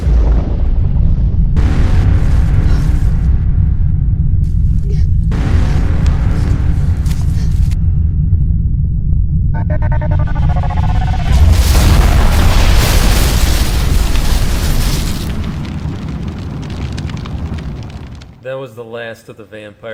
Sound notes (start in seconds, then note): 0.6 ground rumbling; 9.1 rumbling; 11.3 massively loud explosion; 15.7 fire crackling